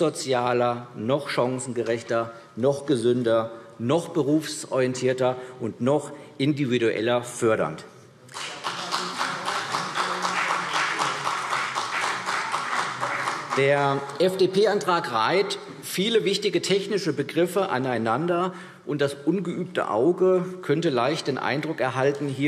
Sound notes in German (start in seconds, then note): 8.3 Beifall CDU und BÜNDNIS 90/DIE GRÜNEN